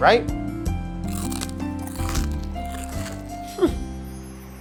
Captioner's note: crunchy eating sounds